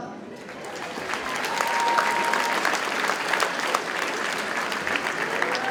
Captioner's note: audience cheers and applauds